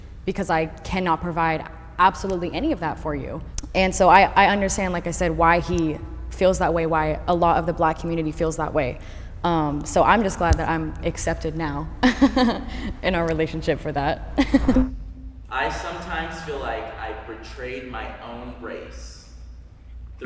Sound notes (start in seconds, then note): 12.0 giggles; 14.3 giggles